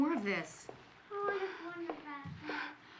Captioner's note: breath trembling